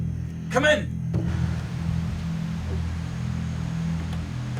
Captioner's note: static